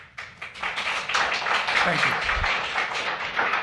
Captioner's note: applause